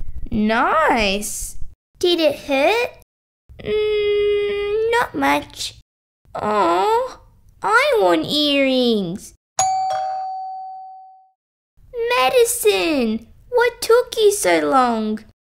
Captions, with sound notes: Nice! Did it hurt? Not much Ohhh! I want earrings... (Doorbell) Madison! What took you so long?